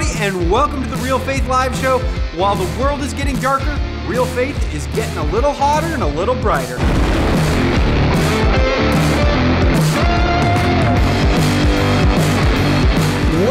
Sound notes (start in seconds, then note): 6.8 explosion rumbling; 7.0 upbeat rock music; 8.9 upbeat rock music continues